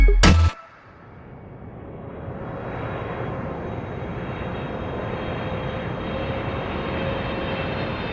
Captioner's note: airplane Flying